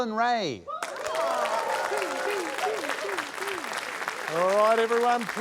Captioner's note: applause